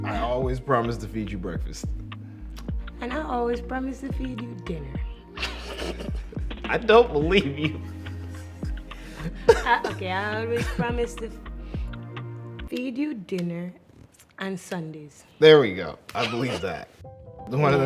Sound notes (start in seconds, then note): 5.4 both laugh